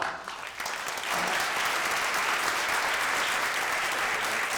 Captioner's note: audience applauds